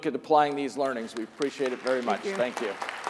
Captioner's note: audience applauds